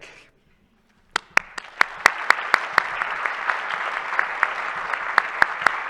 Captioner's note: attendees applauding